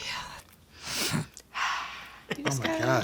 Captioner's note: sniffs